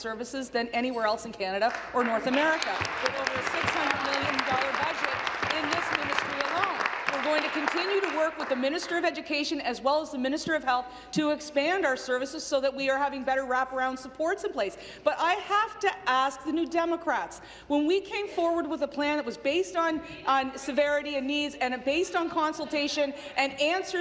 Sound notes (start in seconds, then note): 7.6 applause